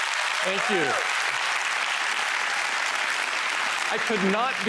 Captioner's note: applause